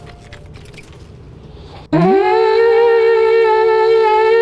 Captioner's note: horn blowing